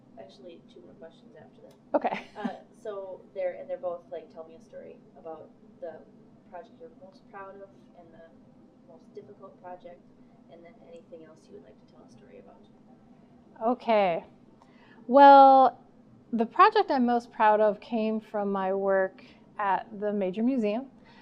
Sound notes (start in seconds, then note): 2.1 laughing